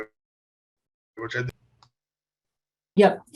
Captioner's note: audio cuts out